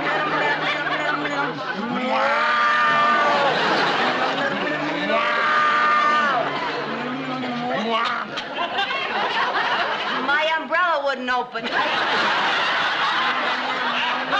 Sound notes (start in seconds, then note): 0.0 both humming; 6.6 both humming; 8.0 Lucy coughs; 12.9 humming alone